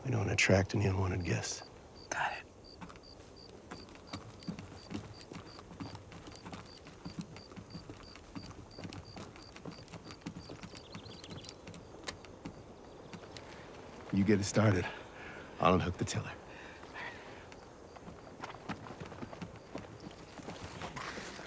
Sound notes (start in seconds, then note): 3.3 birds chirping; 17.7 birds chirping